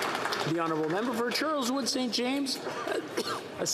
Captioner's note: some Applause